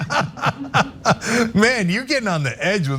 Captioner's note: laugh